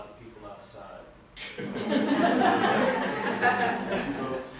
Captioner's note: laughter